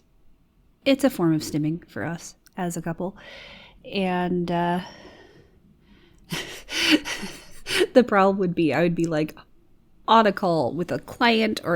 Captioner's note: laughs